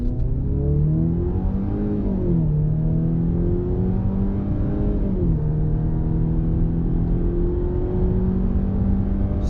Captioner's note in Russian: звук разгоняющегося двигателя